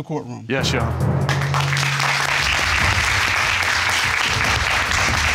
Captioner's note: audience applauding